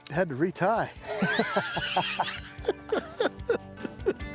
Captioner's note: both laughing